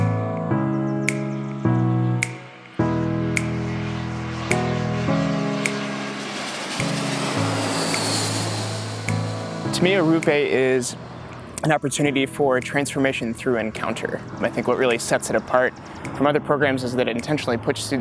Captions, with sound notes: (plane engine roars) - To me, Arrupe is an opportunity for transformation through encounter. I think what really sets it apart from other programs is that intentionally pushes